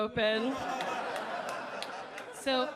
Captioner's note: audience laughing